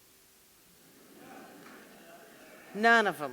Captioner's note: audience laughing